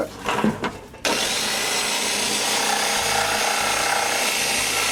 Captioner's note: grinding sounds